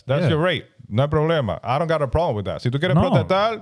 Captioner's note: speaking In Foreign Language